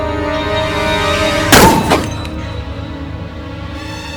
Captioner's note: gun fires; dramatic suspenseful music